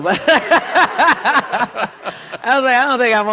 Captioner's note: laughter